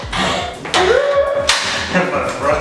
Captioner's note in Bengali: খুশির শব্দ